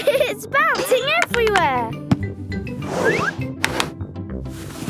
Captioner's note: laughing